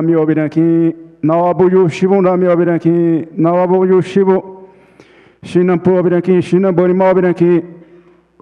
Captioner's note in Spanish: Ponente habla en portugués